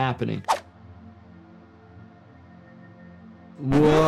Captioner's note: screen whooshing